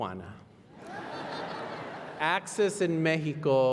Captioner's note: laughter